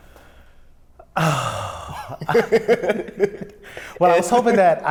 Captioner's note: laughs